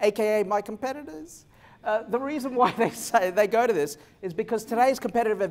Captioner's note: laughter